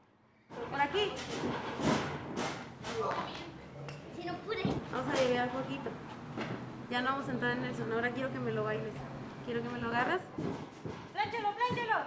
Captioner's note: coaches & wrestlers speaking Spanish